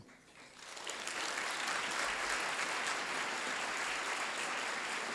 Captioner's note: applause